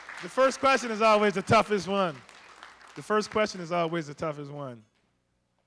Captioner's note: applause